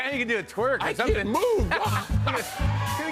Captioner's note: laughs